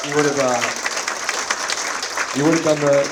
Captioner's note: audience applauds